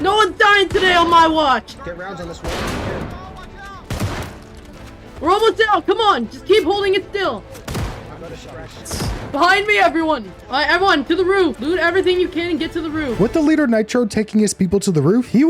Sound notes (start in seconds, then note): 2.3 gunshots; 7.5 gunshots